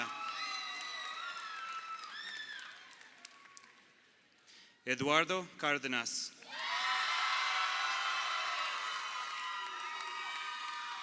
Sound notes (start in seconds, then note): 0.0 crowd cheering; 6.4 crowd cheering